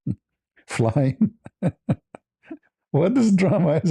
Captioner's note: ketawa